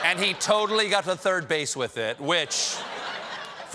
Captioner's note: laughter